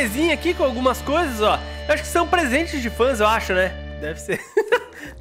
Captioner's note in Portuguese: risos